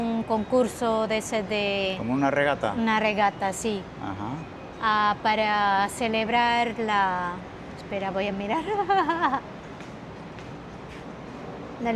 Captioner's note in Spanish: risas